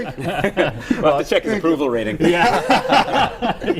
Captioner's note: laughter